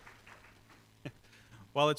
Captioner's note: chuckles